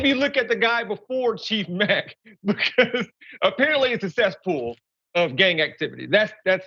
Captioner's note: laugh